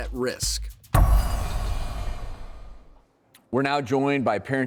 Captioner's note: dramatic noise